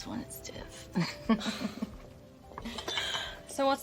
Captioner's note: laughs